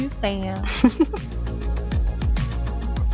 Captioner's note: laughs; light music